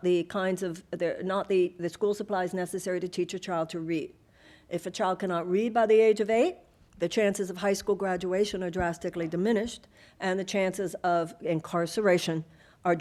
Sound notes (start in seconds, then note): none